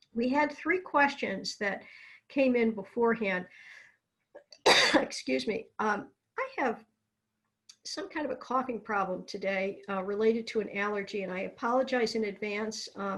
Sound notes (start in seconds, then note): 4.6 coughs